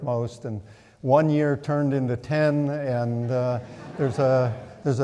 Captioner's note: audience laughing